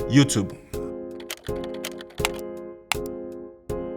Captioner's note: slow music; keyboard clicking; upbeat music